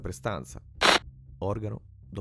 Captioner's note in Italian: interferenza